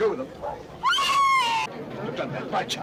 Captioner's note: Mary screams